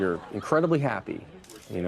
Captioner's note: crowd laughing